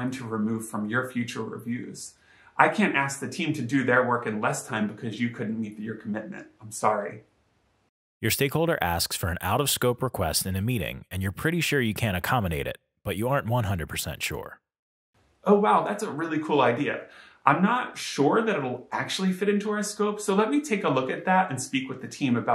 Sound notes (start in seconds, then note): 8.3 voiceover